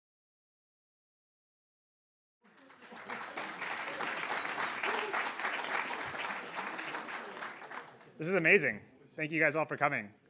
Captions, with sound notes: [APPLAUSE] >> This is amazing. Thank you guys all for coming.